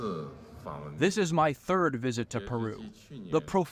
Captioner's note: through translator